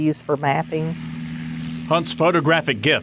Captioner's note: airplane engine running